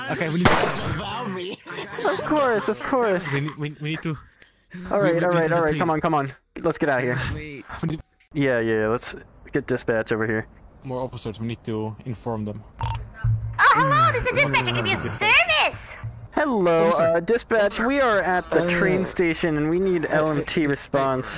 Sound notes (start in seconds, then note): 0.4 gunshot; 0.9 maniacle laughter